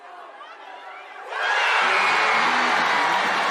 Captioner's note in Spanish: Gritos